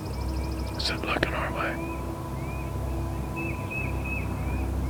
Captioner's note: whispering